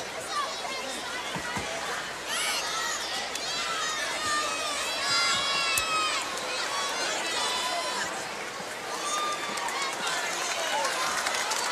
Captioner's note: crowd chatter